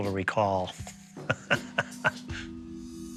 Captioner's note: laughs